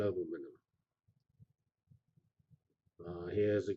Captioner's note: pause